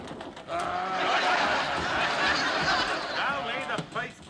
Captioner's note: laughter